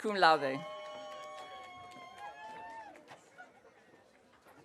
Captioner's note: audience cheering